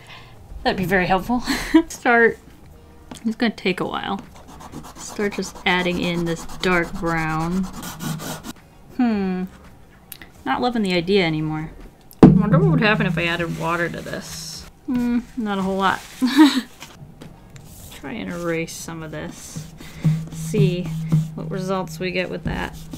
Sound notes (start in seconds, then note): 7.6 scratching cardboard sound